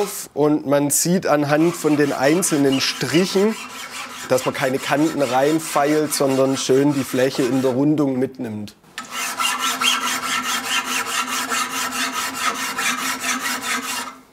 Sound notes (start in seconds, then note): none